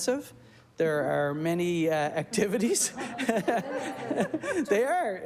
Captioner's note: laughter